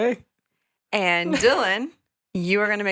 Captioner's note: chuckling